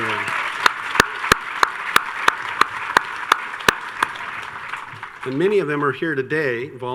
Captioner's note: audience cheers and applauds